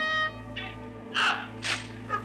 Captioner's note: trumpet blaring; person shouting; weapons clicking